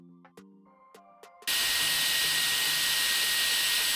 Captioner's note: drill whirring